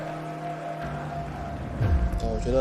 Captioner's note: crowd cheering